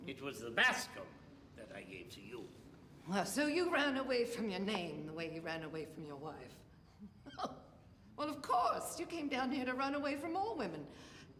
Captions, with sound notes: It was the Bascom that I gave to you. Well, so you ran away from your name the way you ran away from your wife. [laughing] Well, of course. You came down here to run away from all women.